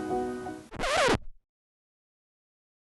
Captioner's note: record scratch